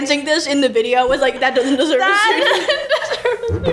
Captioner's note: laughs